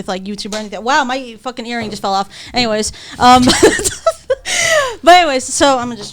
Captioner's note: laughs